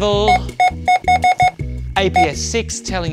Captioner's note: scanner beeping repeatedly